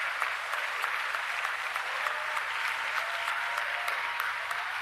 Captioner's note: applause